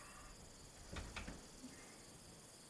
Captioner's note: door handle clicking